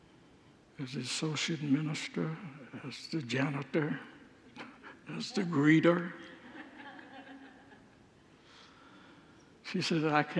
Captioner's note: congregants laugh